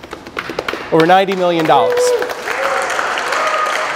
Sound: applause

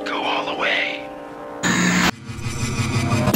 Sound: loud static

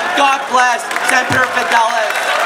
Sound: cheers and applause

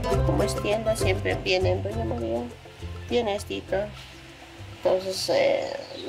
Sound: speaking in foreign language

